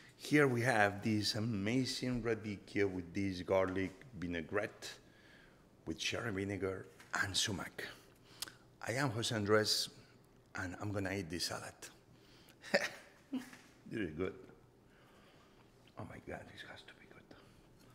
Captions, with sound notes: Here we have this amazing radicchio with this garlic vinaigrette, which are a vinegar and sumac. I am Jose Andres, and I'm gonna eat this salad. ( Jose laughs) - (woman chuckles) - This is good. Oh my god, this has to be good.